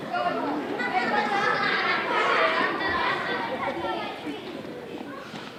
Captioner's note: audience laughing